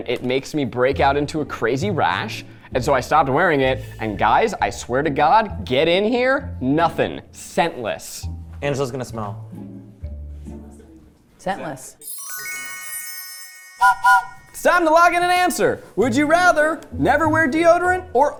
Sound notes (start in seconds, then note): 9.8 light music; 12.0 whimsical music; 13.8 train whistle blowing